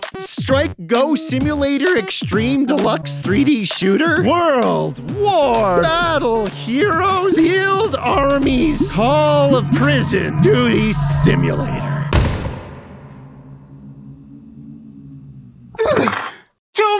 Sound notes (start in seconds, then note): 12.1 thuds; 12.2 low wind howling; 15.7 gasps